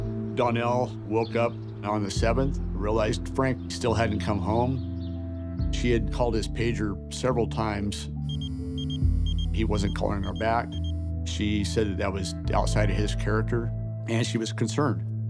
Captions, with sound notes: - Danelle woke up on the seventh, realized Frank still hadn't come home. She had called his pager several times. (pager beeping) He wasn't calling her back. She said that that was outside of his character and she was concerned.